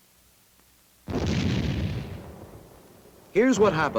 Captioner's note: explosion in distance